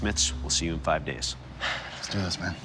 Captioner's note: sighs